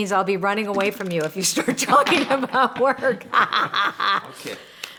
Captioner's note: laughs